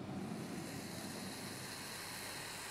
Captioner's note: hissing